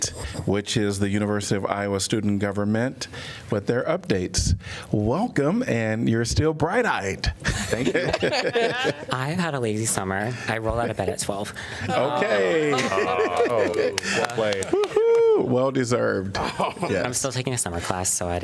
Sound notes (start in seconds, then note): 7.4 laughter